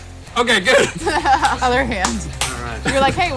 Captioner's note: laughs